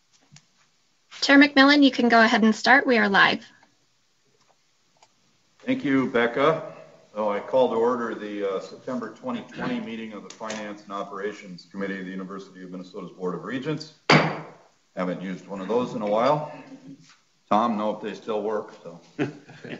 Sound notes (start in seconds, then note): 14.1 gavel bangs